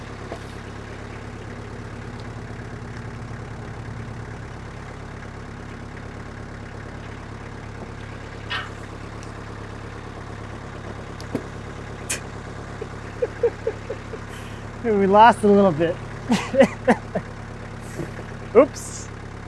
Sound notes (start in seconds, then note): 12.6 laughs